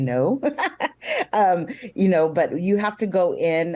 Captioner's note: giggling